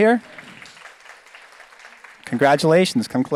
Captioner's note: audience applauds